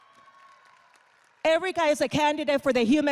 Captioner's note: audience applauding